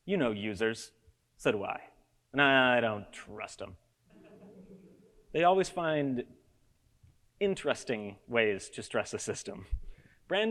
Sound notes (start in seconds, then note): 4.2 audience laughs